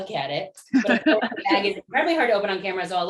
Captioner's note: laughter